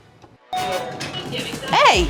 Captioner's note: ding